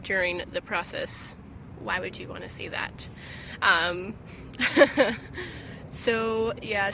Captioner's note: laughes